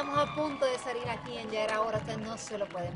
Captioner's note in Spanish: aplausos